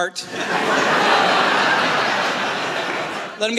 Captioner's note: laughter